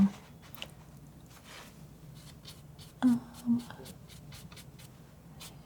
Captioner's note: scratching